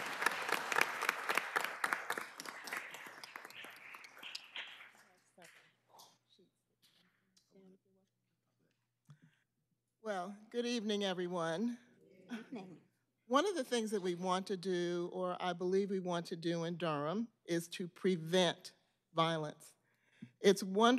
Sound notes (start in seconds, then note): 1.7 applause